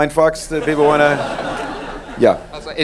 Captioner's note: laughing